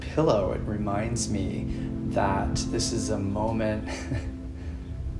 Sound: chuckles

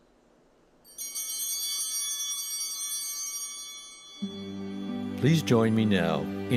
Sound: chimes ringing

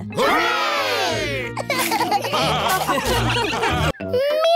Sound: laughter

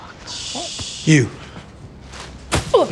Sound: shushing

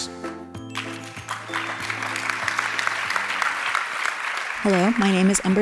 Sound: applause

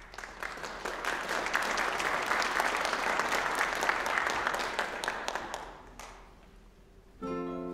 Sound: applause

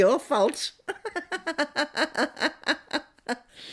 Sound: laughing

